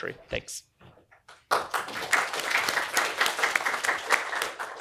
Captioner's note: applause